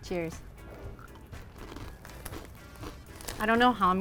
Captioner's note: Cheetos crunching